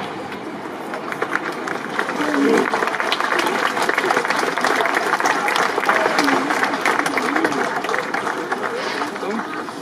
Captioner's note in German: Applaus